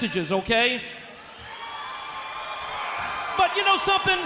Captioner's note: crowd cheering